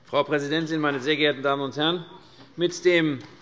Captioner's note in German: none